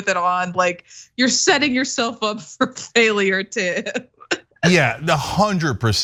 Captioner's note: laugh